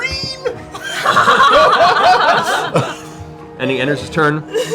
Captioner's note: laughter